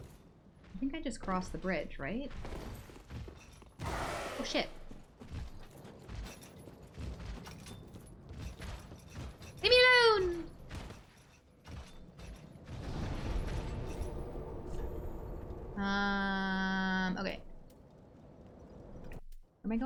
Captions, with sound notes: I think I just crossed the bridge, right? Oh shit. Gimme a loan! (footsteps) Umm, okay.